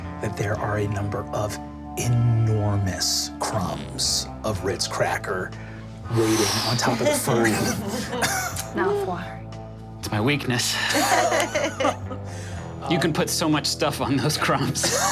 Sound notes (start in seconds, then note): 10.8 group laughing